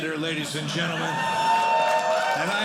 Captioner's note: audience cheering